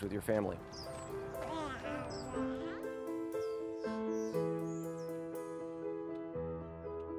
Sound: gentle music; toddler babbles

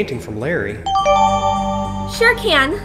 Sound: new evidence chime

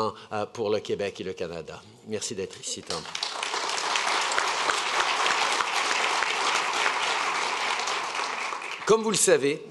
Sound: applause

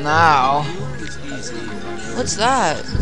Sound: amiable chatter

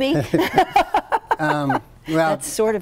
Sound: laughs

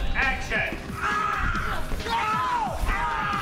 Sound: screaming

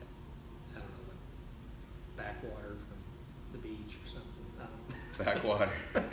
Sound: laughing

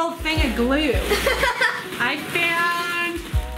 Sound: laughs

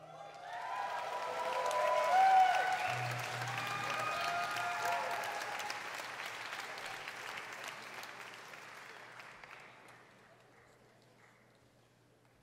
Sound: cheers and applause

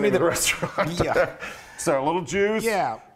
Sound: laugh

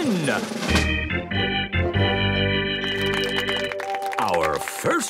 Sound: gameshow music; clapping

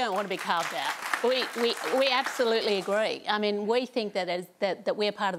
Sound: applause

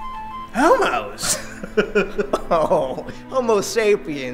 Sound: Robin laughing

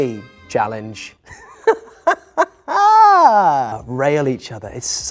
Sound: Phil laughs

